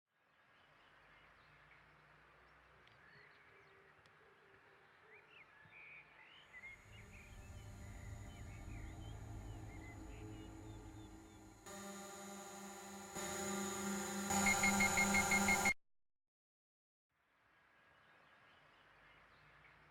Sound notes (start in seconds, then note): 4.1 bird chirping; 12.2 dramatic sounds